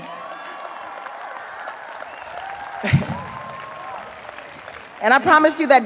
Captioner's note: audience cheering; audience applauding